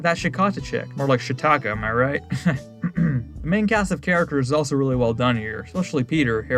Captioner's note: clear throat